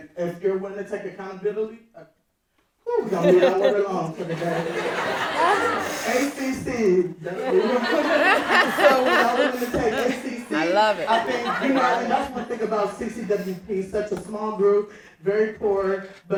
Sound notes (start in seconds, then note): 5.1 audience laughing; 8.0 laughs